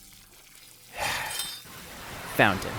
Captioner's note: sigh